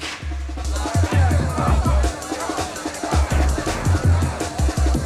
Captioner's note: crowd chattering